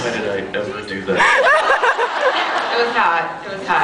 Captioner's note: laughs